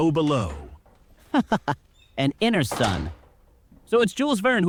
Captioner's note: slamming door